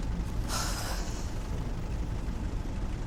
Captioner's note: sighs